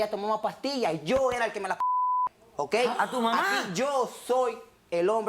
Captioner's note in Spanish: Bip